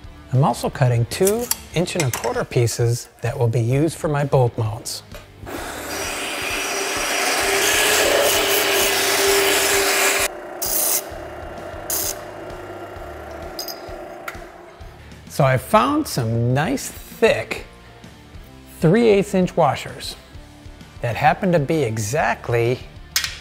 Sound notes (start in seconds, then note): 5.8 machine whirring; 11.7 machine whooshing